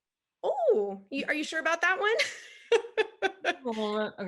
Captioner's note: laughs